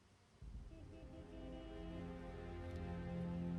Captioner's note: car honks